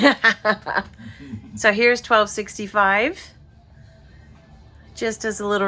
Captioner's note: footsteps going up stairs